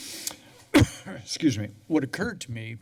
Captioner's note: coughs